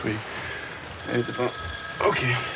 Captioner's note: ring